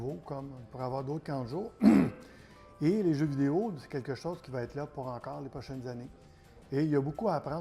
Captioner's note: ahem